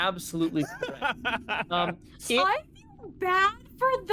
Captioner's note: laughing